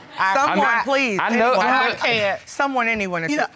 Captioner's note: stutters